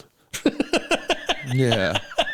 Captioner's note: laughing